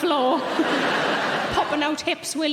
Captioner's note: audience laughing